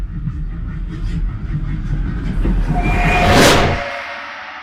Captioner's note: train whistle